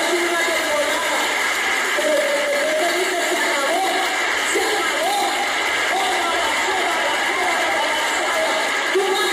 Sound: speaking in tongues

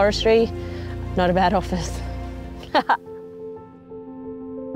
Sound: laughing

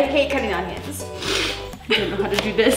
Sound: sniffles

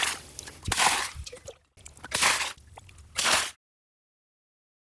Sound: draining water from tubs

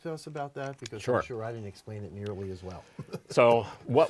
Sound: laughter

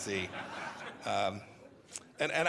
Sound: laughter

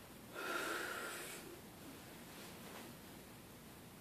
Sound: takes deep breath

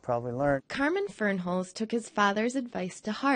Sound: voiceover

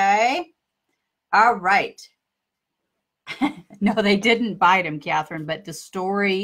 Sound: laughs

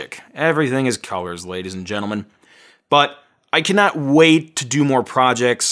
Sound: none

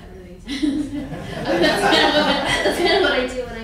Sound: laughing

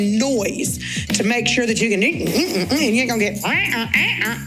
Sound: makes squeaky bed noises; makes squeaky bed noises

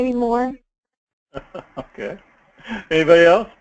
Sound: laugh

